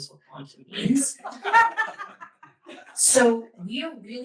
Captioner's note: laughter